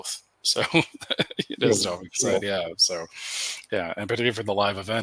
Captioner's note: laughs